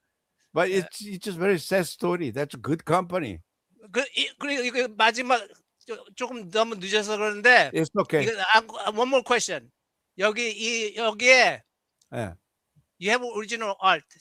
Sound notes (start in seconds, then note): 4.5 non-english speech; 11.0 non-english speech